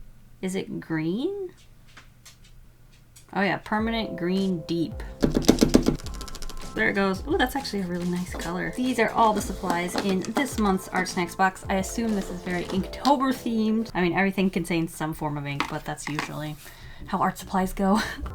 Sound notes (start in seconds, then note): 1.9 pause; 5.2 pen prepping sounds: clicking and smacking